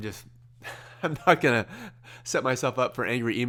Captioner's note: laughs